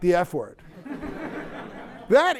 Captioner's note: laughter